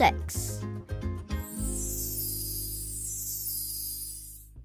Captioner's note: upbeat music; bells chiming